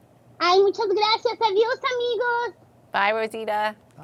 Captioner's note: speaking Spanish